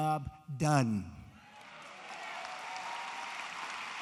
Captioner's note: applause